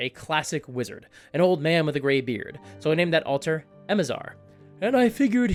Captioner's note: old man voice